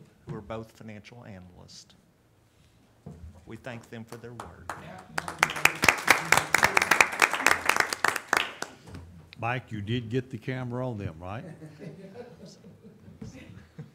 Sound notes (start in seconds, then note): 4.6 audience applauding